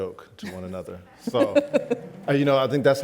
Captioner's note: laughs